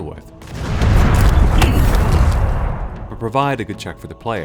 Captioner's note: gunfire